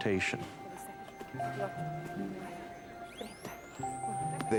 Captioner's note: backround conversation; medical equipment sounds